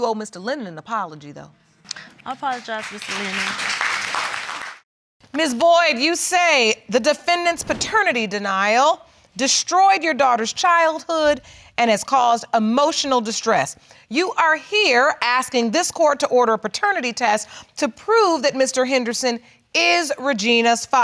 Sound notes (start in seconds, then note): 1.9 audience claps